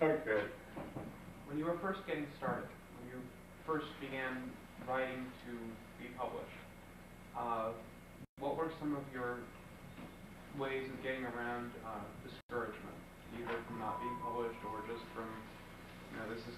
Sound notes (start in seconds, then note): 1.6 male Voice